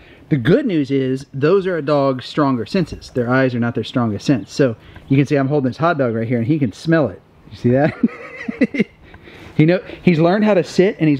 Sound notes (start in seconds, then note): 7.7 laughs